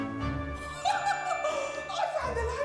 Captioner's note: Regina laughing